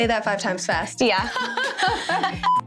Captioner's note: laughing